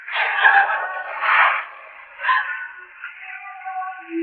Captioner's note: crying, sobbing